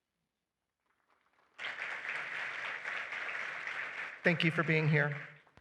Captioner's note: applause